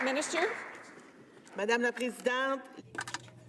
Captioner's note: some Applause